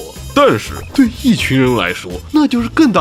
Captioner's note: crowd